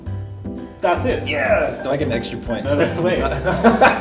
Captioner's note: laughs